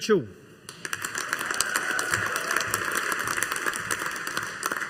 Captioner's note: audience applauding